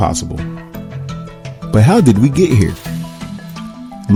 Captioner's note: voiceover